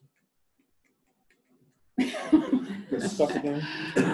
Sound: laughter

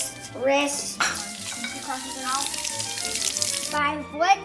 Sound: water running

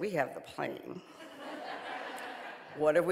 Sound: audience laughing

